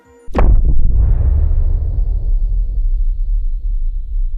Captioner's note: bomb booming